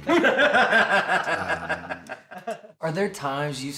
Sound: laugh

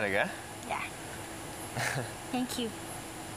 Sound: chuckles

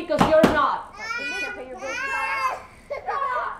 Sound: baby crying

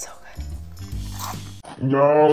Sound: cereal crunches

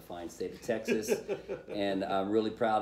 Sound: laughter

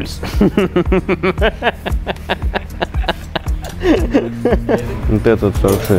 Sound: laughing

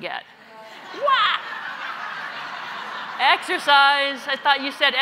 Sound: laugh

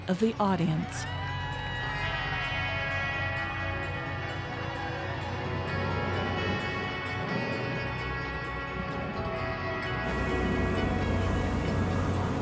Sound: cheering

